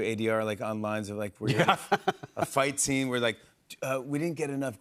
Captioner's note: laughing